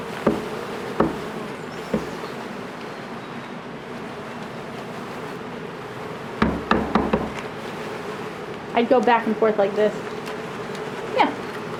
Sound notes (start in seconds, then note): 2.3 bee buzzing intensifies; 6.4 thud, thud, thud